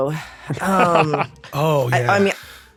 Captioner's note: laughs